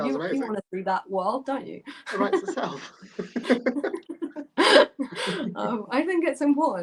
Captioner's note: laughter